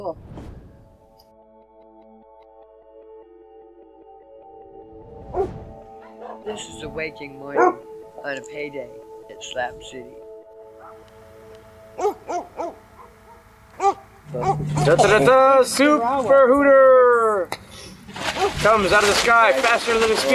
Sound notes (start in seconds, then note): 0.9 slow dramatic music; 5.9 dogs barking; 11.7 dogs barking